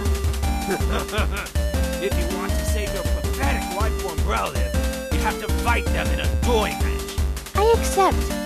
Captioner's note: schemingly laughs